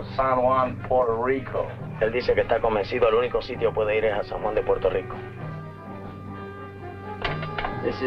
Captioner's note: Colonel Cabeza speaking in Spanish